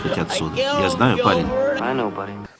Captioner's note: voice-over